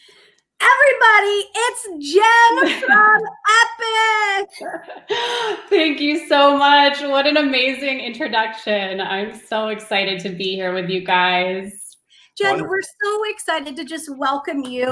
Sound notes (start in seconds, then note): 2.6 laughter